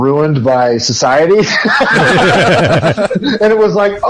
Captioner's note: laughs